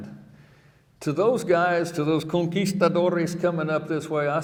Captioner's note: speaking in foreign language